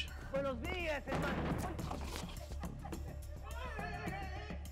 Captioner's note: retching